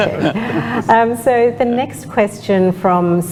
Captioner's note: laughter